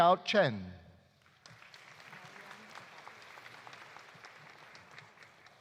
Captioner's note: audience applauding